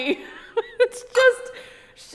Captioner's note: laughs